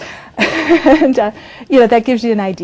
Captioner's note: laughs